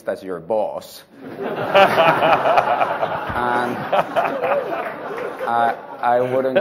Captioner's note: laughter